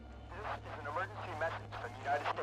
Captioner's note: man On Radio